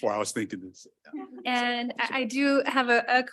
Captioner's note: audio blurs